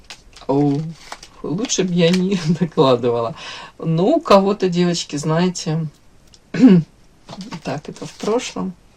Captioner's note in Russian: откашливается